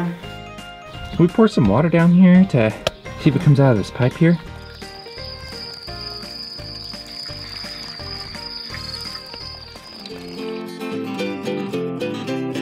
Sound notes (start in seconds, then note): 3.0 crickets